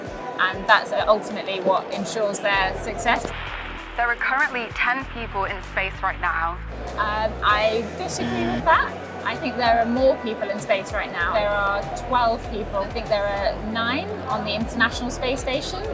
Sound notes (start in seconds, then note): 3.3 voice over radio static; 8.2 buzzer sound